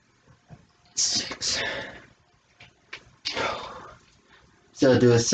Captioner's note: exhaling